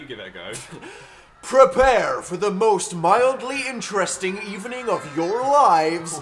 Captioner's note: announcer voice